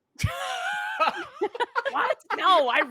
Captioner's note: laughs